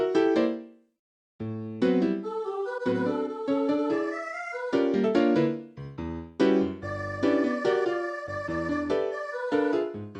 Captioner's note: timidly